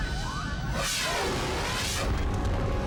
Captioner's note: scene swooshing; dramatic music